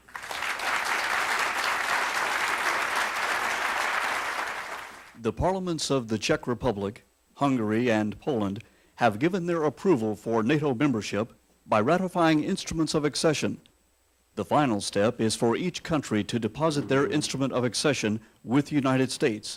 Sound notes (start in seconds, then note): 3.5 applause